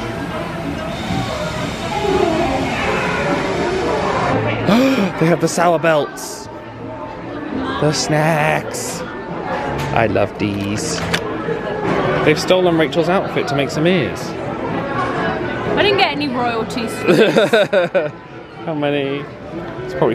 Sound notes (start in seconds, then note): 0.8 lively background chatter; 4.6 gasps; 17.1 laughs